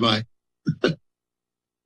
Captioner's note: laughter